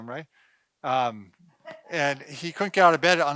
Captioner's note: woman laughing